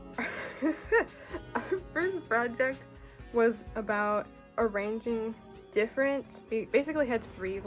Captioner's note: laughs